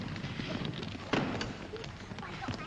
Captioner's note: cart rumbles; cart clatters down